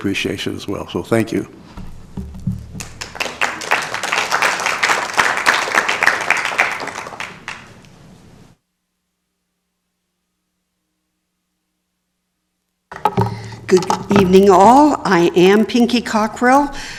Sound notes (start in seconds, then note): 6.9 applause